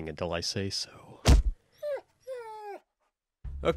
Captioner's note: whimpers